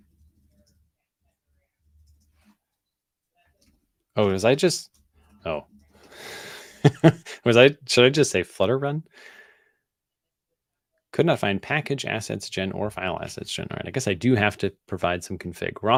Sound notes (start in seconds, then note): 6.4 chuckles